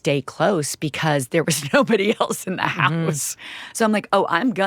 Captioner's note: chuckling